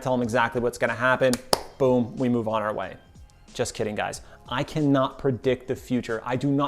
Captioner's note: claps